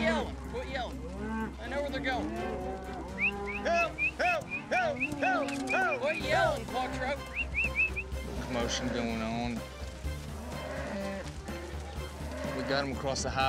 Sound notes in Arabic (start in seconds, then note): 4.9 صراخ، صفير; 7.2 صافرة